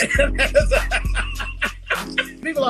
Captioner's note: laughing